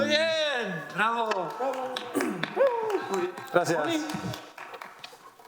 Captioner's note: audience applauding